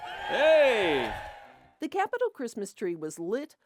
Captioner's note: crowd cheering